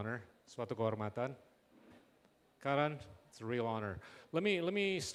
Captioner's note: non-english speech